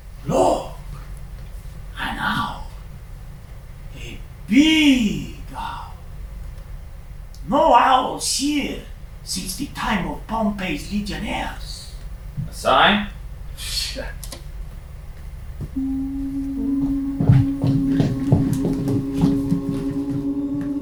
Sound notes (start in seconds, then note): 15.6 humming